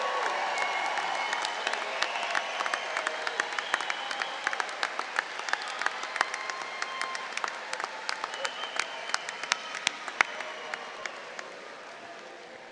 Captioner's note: cheering